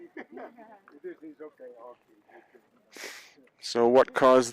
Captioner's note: crew member speaking faintly